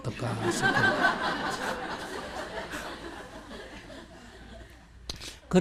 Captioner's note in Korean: 청중 웃음